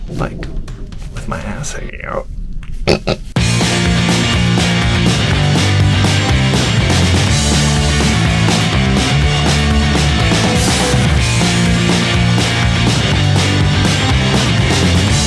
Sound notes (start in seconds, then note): 2.8 laughing; 3.1 upbeat music